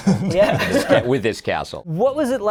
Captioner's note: laughing